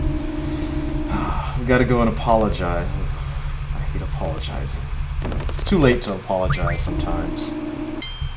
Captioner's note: sigh